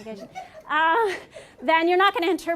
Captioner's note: laughter